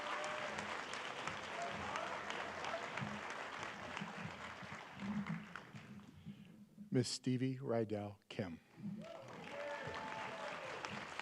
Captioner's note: applause